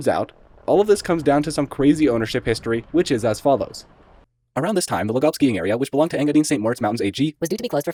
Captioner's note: sped-up reading of “our shared story”